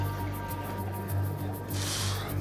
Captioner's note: exhales